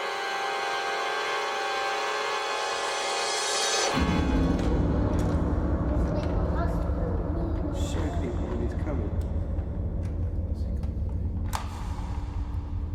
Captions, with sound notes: (ethereal music) (children chattering) - Show people when it's coming.